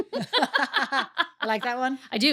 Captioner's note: laughing